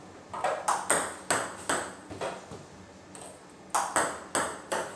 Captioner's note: ball ping pong hitting continues